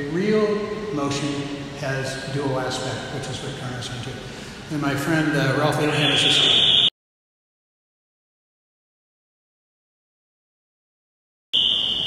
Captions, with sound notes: Real motion has a dual aspect, which is what Carnot is saying as well. And my friend-- (loud electronic static cuts out speaker)